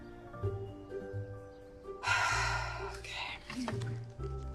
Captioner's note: sighing